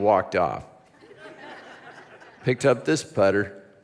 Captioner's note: congregation laughs